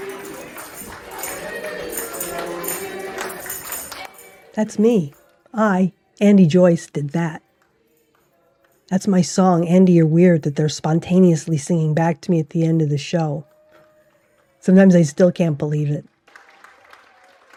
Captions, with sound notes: That's me. I, Andee Joyce did that. That's my song. "Andy Yr Weerd," that they're spontaneously singing back to me at the end of the show. [clapping and cheering] Sometimes I still can't believe it.